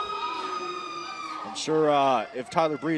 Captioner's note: crowd chatter